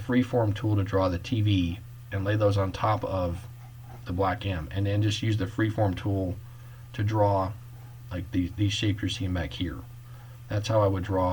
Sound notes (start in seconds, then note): none